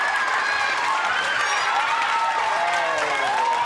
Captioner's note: rapturous applause